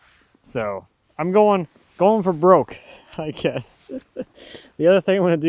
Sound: laughs

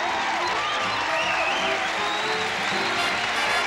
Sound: audience applauds; band plays jazz

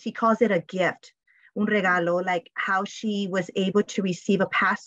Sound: speaking spanish

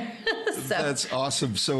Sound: laughing

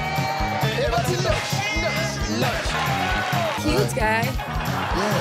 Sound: in foreign language

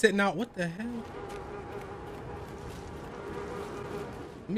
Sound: flies buzzing

